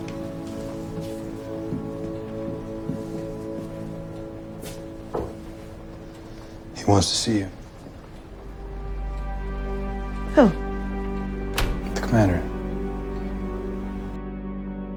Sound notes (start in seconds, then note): 2.2 Nick knocks on the wooden table; 12.0 voiceover